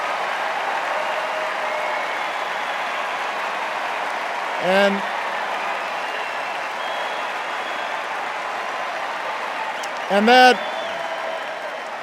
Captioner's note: extended cheers and applause